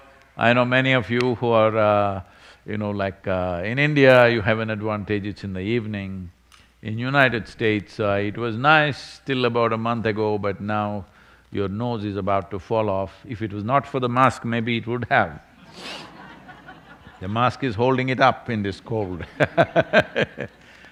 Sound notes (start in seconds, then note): 15.6 laughter; 18.7 laughs